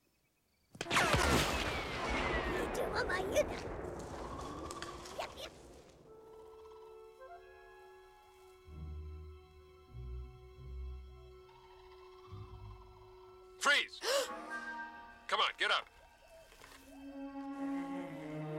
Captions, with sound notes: [Speaking Ewokese] FREEZE! COME ON, GET UP! GRRRRR!